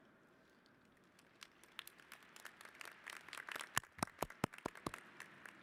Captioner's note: applause